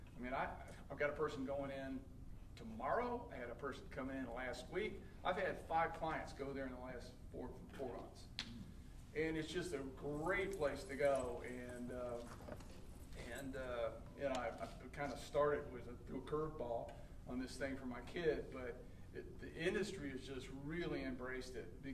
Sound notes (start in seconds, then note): none